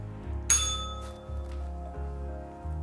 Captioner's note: bell rings